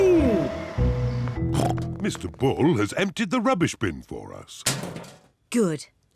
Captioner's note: snorts